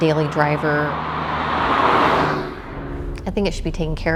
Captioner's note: car drives